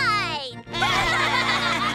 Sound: laughing

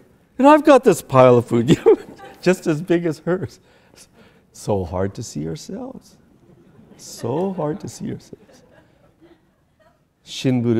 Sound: laughter

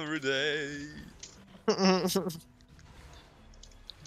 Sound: haha

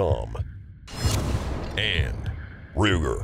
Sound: dramatic transition noises

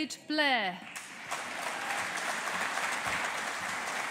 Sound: audience applauding

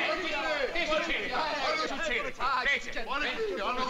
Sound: speaking italian

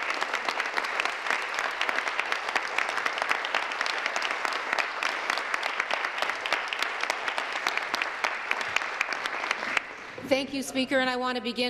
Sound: applause

